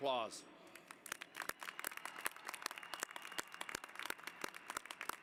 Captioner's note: applause